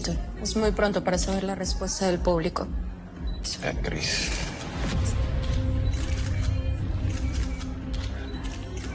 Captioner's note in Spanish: Clics de cámaras fotográficas